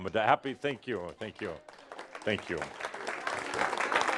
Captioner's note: audience applause